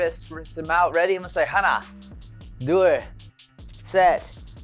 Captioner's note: foreign language